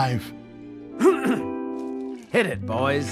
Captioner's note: Cricket clearing his throat